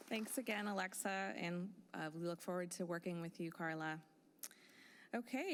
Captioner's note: applause